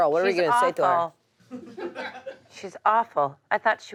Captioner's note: audience laughs